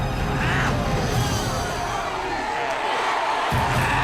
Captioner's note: crowd cheers